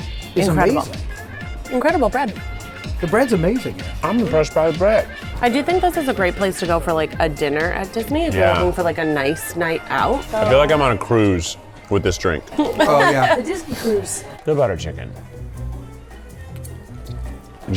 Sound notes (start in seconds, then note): 12.5 laughs; 16.4 upbeat music